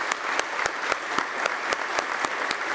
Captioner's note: applause